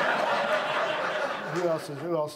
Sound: audience laughs

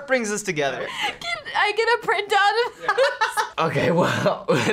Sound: laughs

